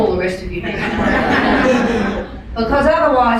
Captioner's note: laughing